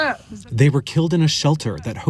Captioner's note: through translator